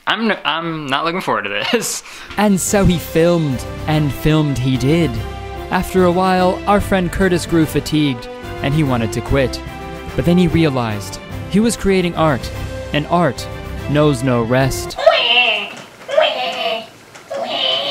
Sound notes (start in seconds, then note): 15.1 shrieks